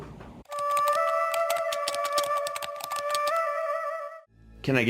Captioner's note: keys typing; eerie music